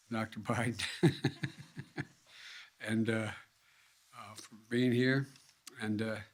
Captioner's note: laughs